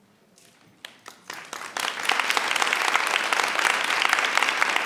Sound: audience applauds

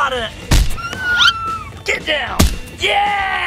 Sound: foot thudding; squealing

